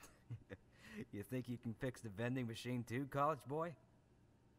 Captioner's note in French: rire amusé